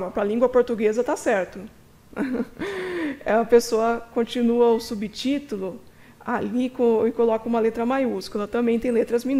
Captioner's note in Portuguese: risos